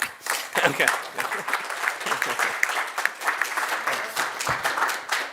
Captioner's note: audience clapping